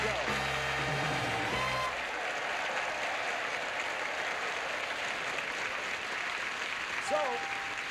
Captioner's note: audience applauding